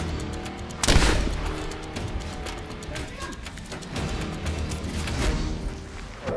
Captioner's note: suspenseful music; gunshots blasting